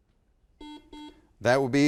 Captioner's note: buzzer beeps